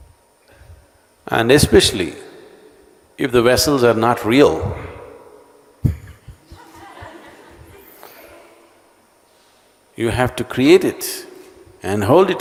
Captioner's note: laughter